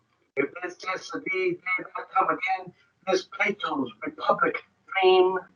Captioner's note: speaks foreign language